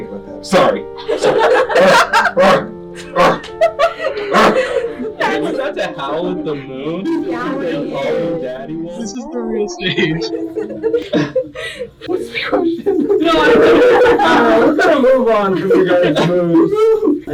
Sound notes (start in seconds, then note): 0.0 more grunting; 1.5 grunting/growling